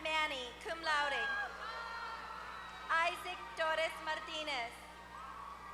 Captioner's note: applause